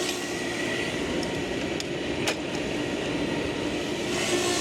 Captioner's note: sander buzzing continues